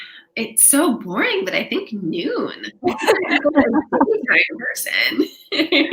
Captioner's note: laughing